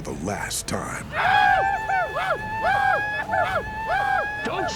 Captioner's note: arapaho war cries